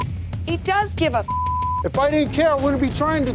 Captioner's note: beep